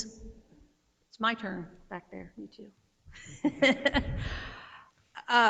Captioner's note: laughs